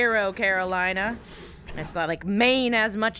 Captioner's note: annoyed exhale